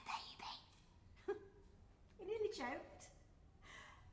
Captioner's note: chuckles softly